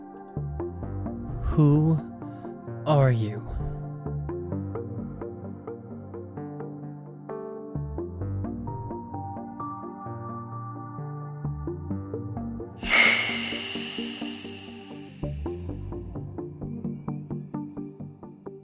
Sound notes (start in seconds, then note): 12.8 hiss